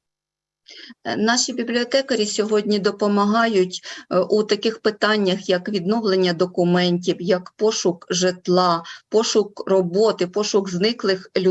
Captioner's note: foreign Language Spoken